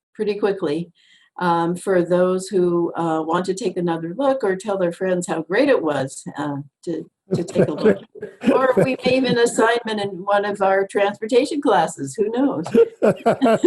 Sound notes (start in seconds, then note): 7.3 chuckles